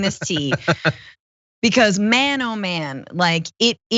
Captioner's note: laugh